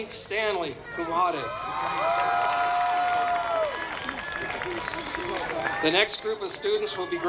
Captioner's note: applause